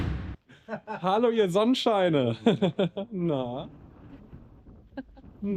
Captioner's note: laughing; speaking in foreign language